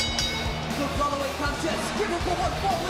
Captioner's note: bell ringing